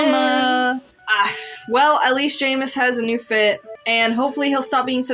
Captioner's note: sigh